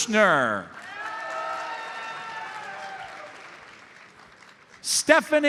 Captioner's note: audience cheers and applauds